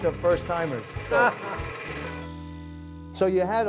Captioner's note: laughing